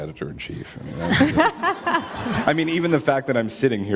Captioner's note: laughter